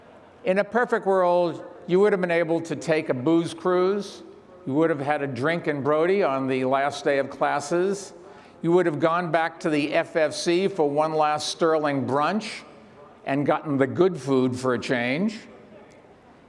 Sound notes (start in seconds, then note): none